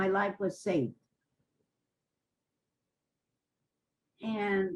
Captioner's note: pauses for 3 seconds